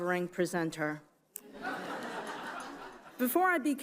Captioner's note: audience chuckles